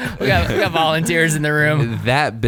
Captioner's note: laughing